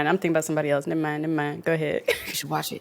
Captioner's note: laughs